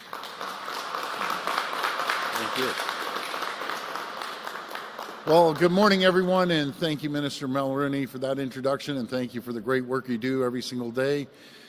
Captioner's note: applause